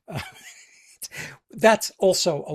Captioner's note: laughs